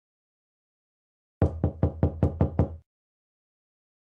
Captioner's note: knocking on door again